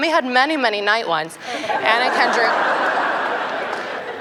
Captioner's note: laughter